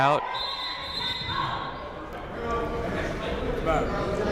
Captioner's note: whistle blows